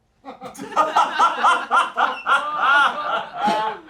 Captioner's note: crew laughs